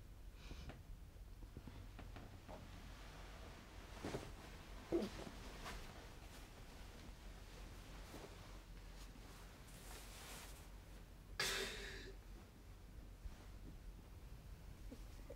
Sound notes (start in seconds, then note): 11.4 sniffles